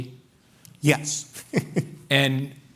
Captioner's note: chuckles